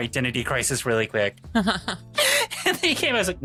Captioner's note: laughing